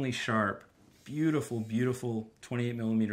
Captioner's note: lens zooming